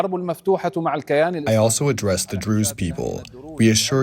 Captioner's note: through translator